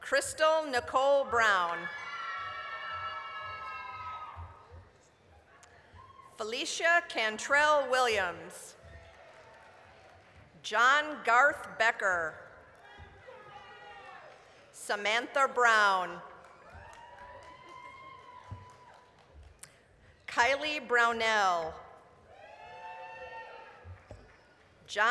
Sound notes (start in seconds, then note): 1.9 applause, cheering; 8.6 applause; 13.5 applause; 16.2 applause, cheering; 22.3 applause, cheering